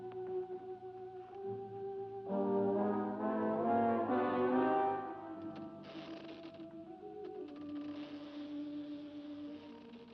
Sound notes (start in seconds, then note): 5.9 door creaks open; 8.3 eerie music